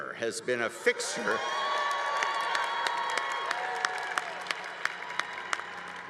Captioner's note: congregation applauding